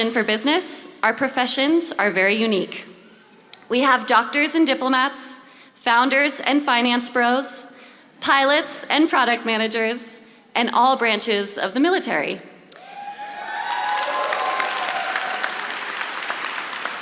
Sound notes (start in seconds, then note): 12.8 audience applauding